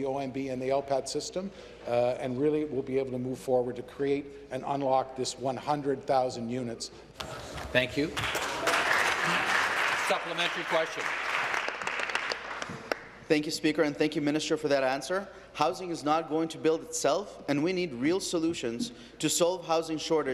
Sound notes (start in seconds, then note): 11.9 applause